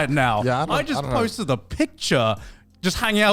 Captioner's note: men laugh